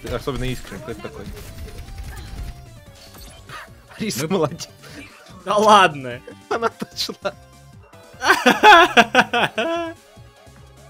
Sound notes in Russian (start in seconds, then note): 8.2 истерический смех